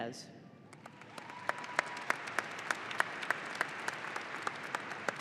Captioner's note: audience applauding